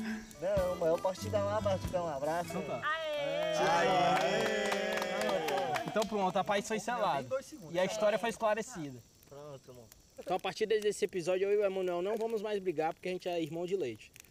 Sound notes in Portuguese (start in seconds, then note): 3.2 aplausos